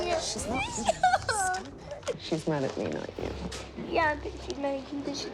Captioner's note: sobbing